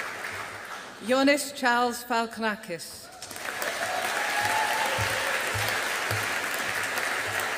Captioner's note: audience applauding